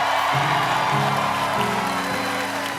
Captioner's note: cheers and applause